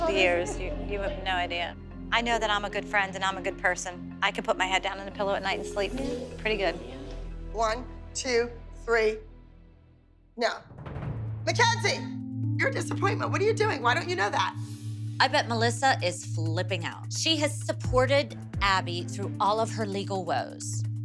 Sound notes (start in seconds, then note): none